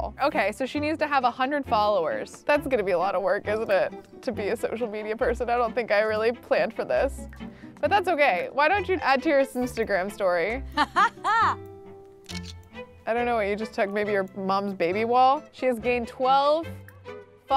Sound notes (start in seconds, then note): 10.7 Sim laughs